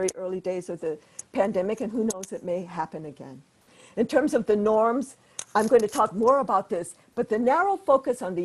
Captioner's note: audio interference